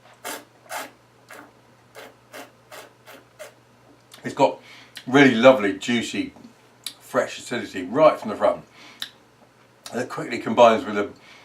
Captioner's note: slurping